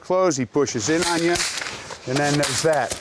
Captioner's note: gunshots